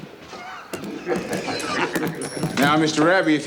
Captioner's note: gang members chuckle